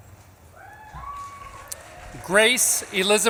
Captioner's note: audience claps and cheers